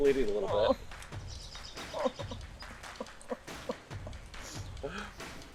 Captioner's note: whimpering